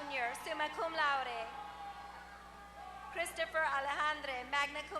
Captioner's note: applause